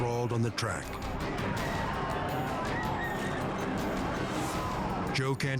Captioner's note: spectators shout